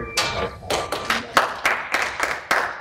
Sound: applause

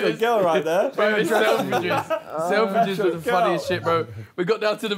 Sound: group chattering

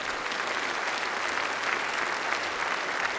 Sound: applause

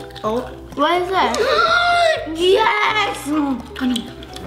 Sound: gasps

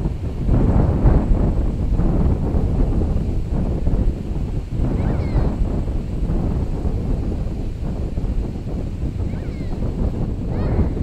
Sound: nature Sounds

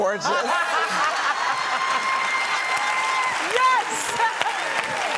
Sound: applause

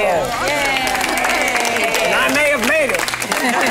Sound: group clapping; group laughing

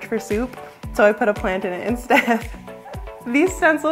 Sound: laughs

